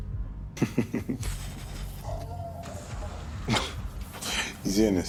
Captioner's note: Tyrone laughing